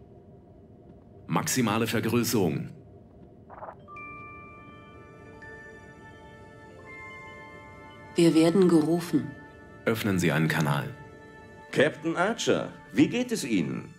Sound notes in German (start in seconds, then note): none